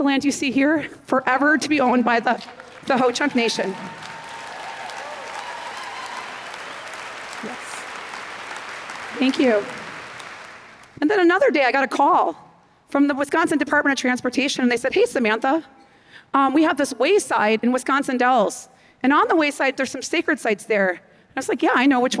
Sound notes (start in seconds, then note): 4.7 applause